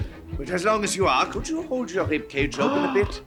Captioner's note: gasping